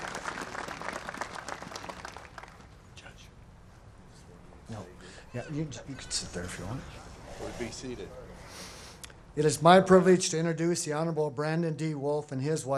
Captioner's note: applause